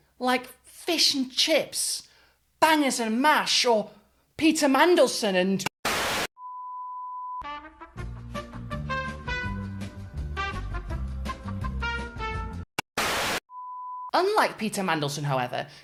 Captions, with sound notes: Like fish and chips, bangers and mash, or Peter Mandelson and-- (static) (upbeat music) (static) Unlike Peter Mandelson, however,